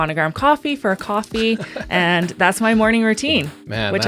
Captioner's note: laughing